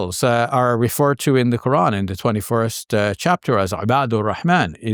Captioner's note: speaking Arabic